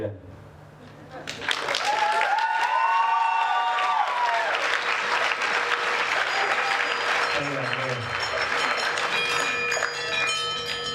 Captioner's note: applause